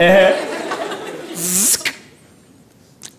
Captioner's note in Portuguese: barulho de zíper